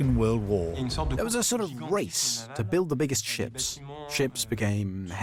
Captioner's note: voiceover